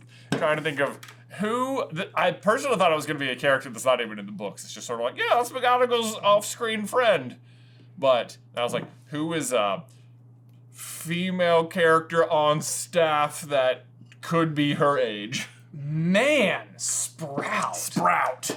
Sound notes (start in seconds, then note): none